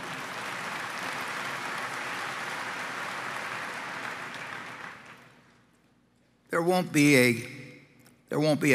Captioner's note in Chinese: Applause; 掌聲